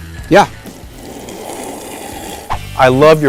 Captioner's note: glasses clanking; slurping